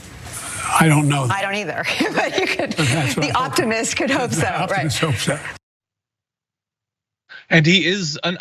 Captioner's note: laugh